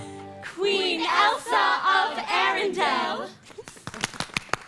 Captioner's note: crowd; crowd applauds